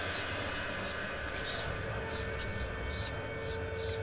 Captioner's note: ghostly voices whispering